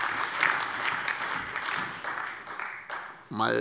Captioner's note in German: Beifall